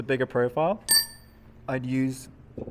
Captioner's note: metal clanking